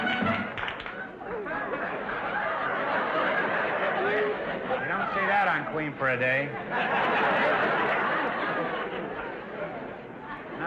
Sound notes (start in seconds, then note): 1.4 audience laughter; 6.7 audience laughter